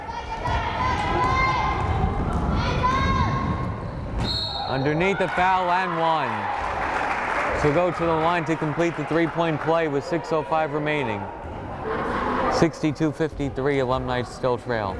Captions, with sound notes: (crowd cheering) (whistle blows) Underneath, the foul and one. (crowd applauding) She'll go to the line to complete the three point play, with 6:05 remaining, 62-53 alumni still trail.